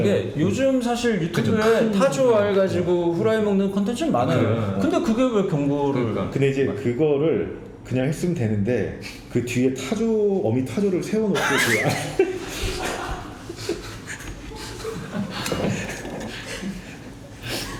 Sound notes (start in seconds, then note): 11.3 laughing